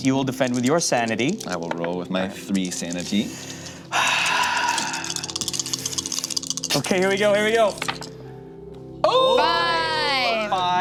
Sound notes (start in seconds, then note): 3.9 sighs; 9.1 group yells